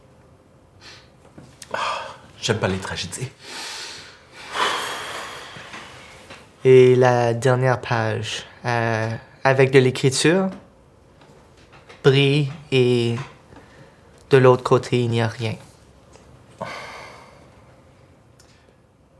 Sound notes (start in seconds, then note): 1.6 Riz'shar sighs